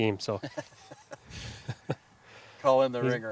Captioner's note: laughs